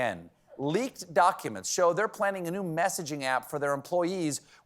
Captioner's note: none